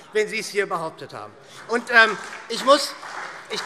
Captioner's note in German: Beifall SPD